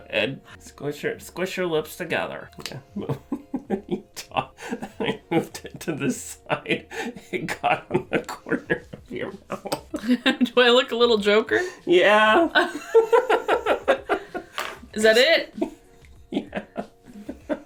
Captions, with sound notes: Go ahead. Squish your lips together. Okay. (laughter) When you talked, it moved it to this side, it got on the corner of your mouth. (laughter) - Do I look a little Joker? - Yeah (laughter) - Is that it? - Yeah